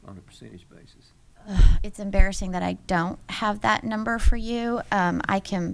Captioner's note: sighs